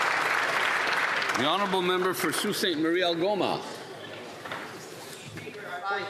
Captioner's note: applause